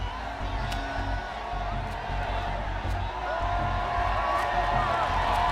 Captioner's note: crowd cheering